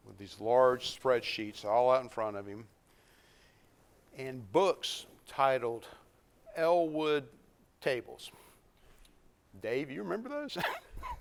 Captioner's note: laughs